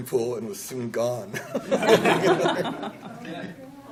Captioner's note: laughter